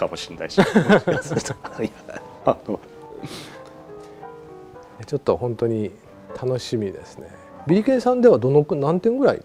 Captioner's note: laughs